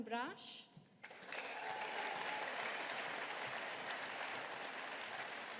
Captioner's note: audience applauding